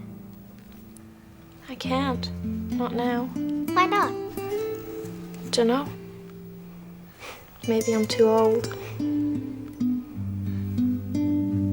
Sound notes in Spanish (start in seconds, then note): 5.6 resopla; 9.1 música sombría